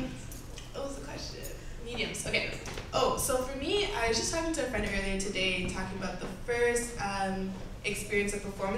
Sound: none

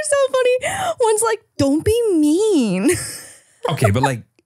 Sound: laughing; laughing

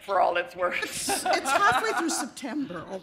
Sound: laughter

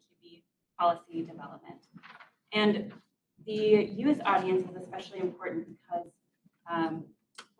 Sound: papers shuffle

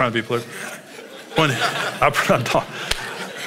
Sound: congregation laughs

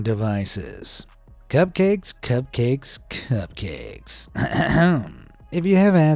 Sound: clears throat

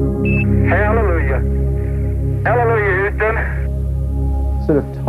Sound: astronaut voice

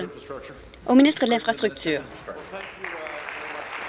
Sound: applause

